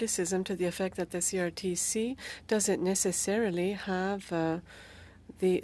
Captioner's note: speaking French